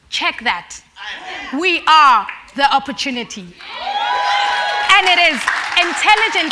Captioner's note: cheers and Applause